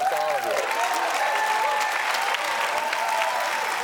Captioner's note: audience cheers and applauds